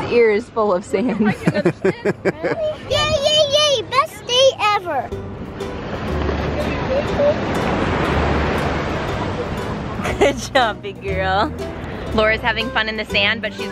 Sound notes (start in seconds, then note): 1.4 laughs; 5.7 soft acoustic music